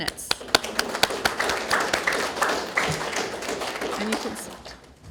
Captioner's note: graduates Clapping